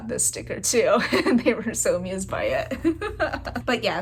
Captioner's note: laugh